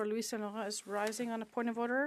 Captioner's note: speaking French